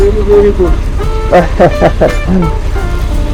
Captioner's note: laughing